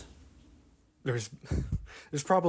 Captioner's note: laugh